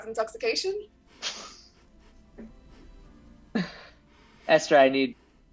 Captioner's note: laughs